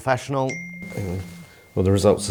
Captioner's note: phone rings